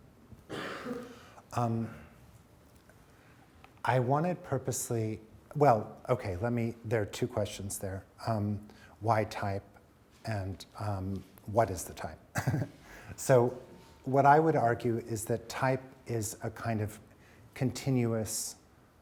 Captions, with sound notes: - There are two questions there: why type and what is the type. (chuckles) What I would argue is that type is a kind of continuous,